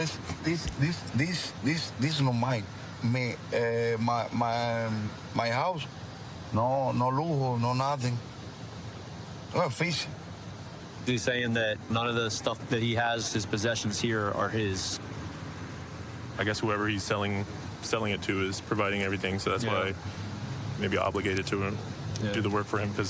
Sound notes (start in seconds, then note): 6.0 speaking spanish